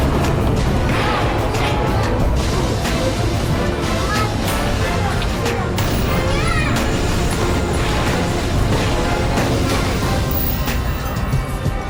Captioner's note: people walking and chatting along the shopping district